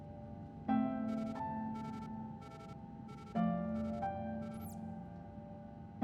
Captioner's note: device beeping